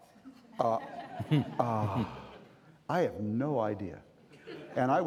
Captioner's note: sighing